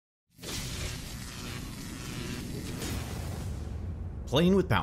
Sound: electricity zapping

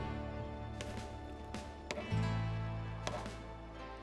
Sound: hammer banging

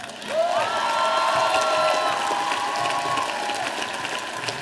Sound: audience applauding

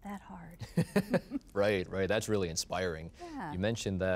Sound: chuckling

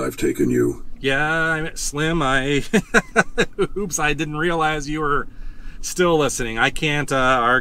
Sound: laughs

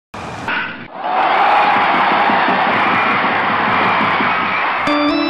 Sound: cheering crowd

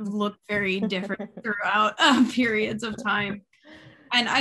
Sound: laughing

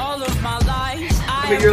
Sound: whispers

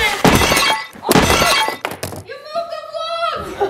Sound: breaking sound effect

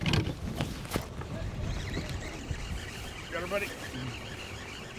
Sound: reel spinning

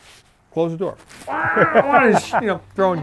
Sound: revving noises

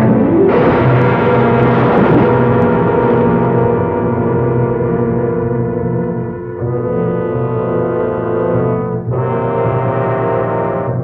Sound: crash

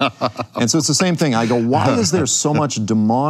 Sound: laughs

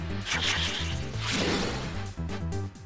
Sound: whooshing

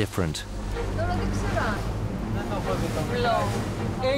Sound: crew speaking Greek

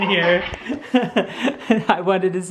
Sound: laughing

